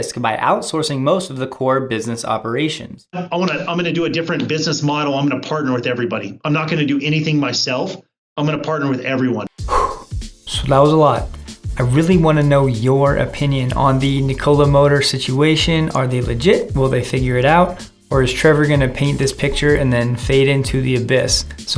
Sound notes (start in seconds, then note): 9.6 exhales